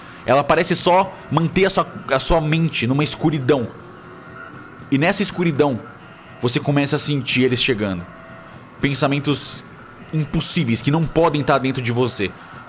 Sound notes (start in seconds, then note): none